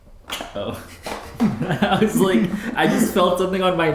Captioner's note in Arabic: أصوات تقبيل; كلاهما يضحك